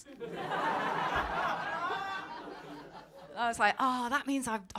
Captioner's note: audience laughing